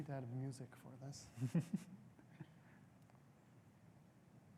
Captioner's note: chuckles